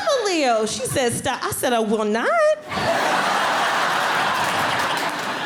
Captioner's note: audience laughing